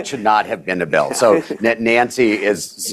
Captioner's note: laughter